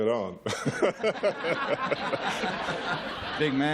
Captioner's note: laughter